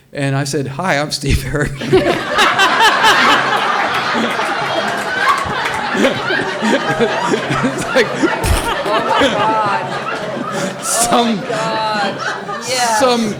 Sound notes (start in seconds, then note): 2.1 audience laughs and applauds; 8.3 imitates gunfire; 10.0 all laughing